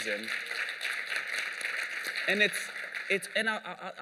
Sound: applause

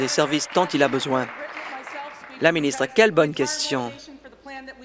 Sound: applause

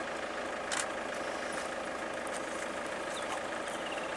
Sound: camera shutter continues to fire

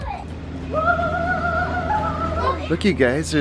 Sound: calls out in delight

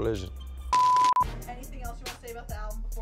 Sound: beeps

